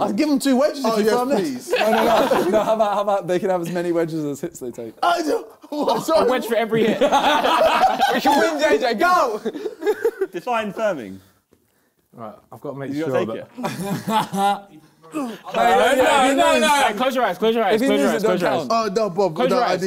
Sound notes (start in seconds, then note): 6.7 both laughing